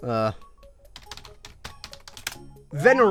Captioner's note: typing